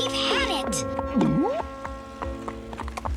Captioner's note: gulp